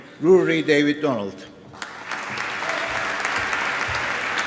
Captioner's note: applause